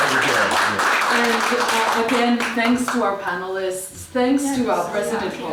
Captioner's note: applause